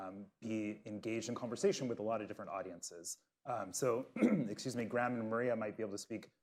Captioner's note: coughs